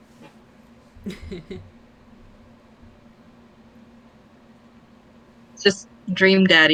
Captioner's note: both laugh